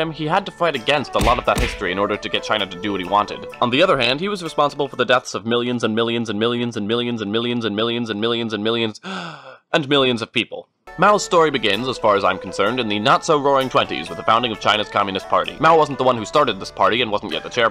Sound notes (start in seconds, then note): 9.0 breath